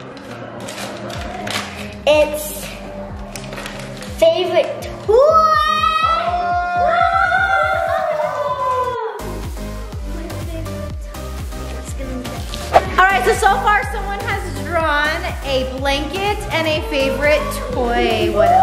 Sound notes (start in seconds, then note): 5.4 cheering; 9.3 upbeat music